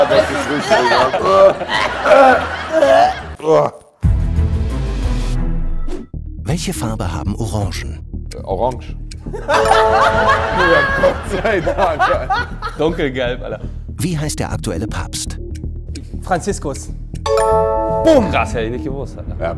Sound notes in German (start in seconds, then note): 0.2 Angeekelte Laute; 2.5 Kotzgeräusche; 3.9 Spannungsvolle Musik; 9.3 Lachen